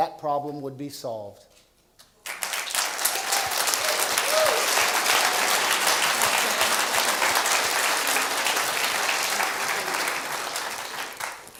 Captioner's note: applause